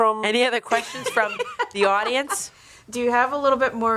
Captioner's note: chuckling